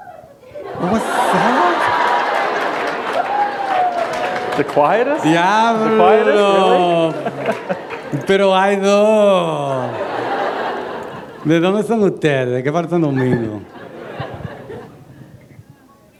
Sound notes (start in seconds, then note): 2.2 laughter; 12.3 foreign language; 14.7 laughter